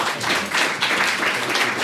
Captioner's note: applause